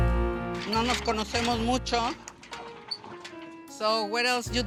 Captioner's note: relaxing music; speaking Spanish